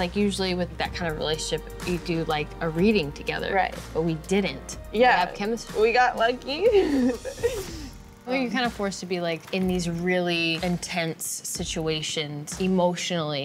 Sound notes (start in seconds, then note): 6.6 chuckles